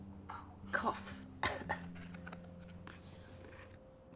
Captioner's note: coughs; reagan coughs